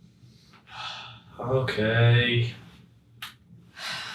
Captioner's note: sighs